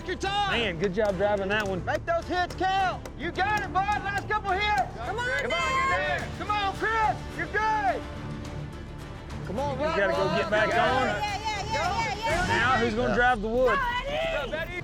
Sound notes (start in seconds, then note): 4.8 cowboys shout encouragement